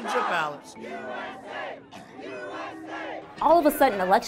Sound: chant

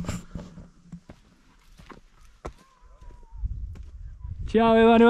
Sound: feet thudding

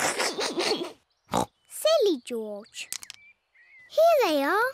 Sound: laughs; snorts

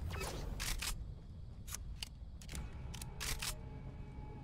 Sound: gun cocking

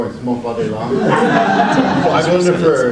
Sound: audience laughs

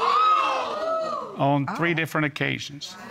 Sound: audience exclaiming

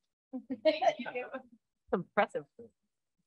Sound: laughter

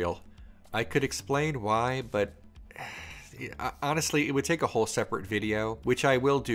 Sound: sighs

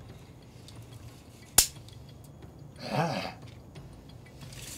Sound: tape measure noise

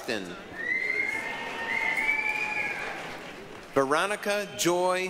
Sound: applause, cheering

